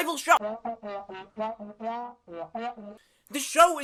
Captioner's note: crew member whispering